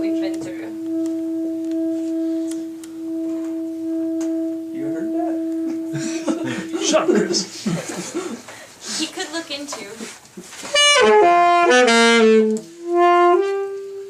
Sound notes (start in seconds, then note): 2.6 saxophone playing; 5.6 laughing; 10.6 saxophone playing